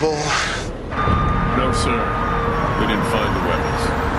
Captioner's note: Сирените плачат